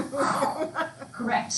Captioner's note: laughs loudly